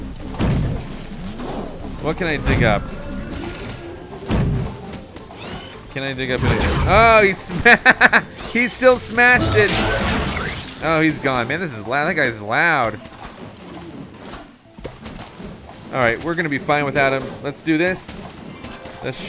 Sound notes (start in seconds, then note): 7.1 laughing